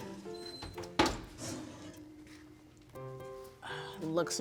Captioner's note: oven door closes